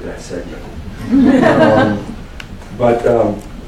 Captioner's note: laughter